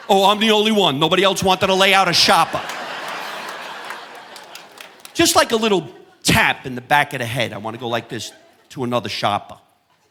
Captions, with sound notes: Oh, I'm the only one? Nobody else wanted to lay out a shopper. (audience laughing) Just like a little tap in the back of the head. I wanna go like this to another shopper.